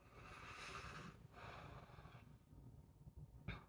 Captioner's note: inhale, exhale